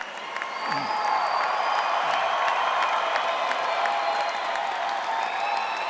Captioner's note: cheers and applause